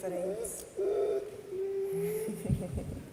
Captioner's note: dog whimpers